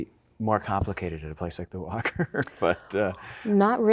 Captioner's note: chuckling